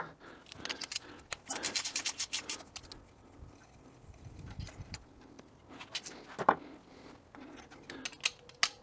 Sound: ratchet Noises

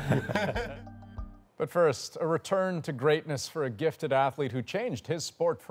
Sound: laughter

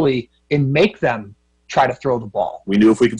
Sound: crowd

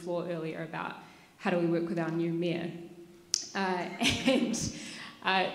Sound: laughs

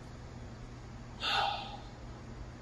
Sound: sigh

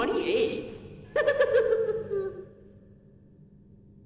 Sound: Bunzo Bunny laughs

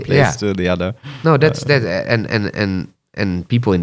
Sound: laughs

